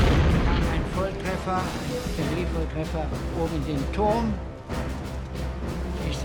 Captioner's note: tank exploding; speaking in foreign language